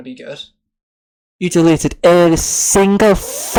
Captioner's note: scottish Accent